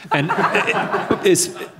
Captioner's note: audience laughing